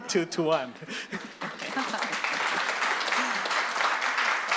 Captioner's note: audience claps